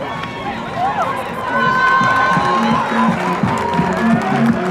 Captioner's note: crowd cheering